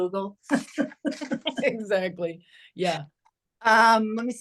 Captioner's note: both laugh